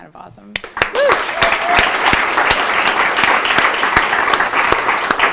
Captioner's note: audience applauding